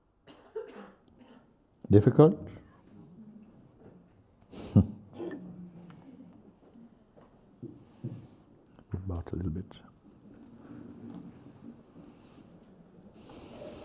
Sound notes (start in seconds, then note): 5.2 murmurs in the sangha